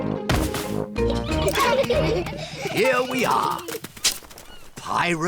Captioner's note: all giggle